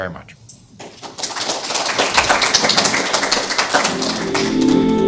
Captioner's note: applause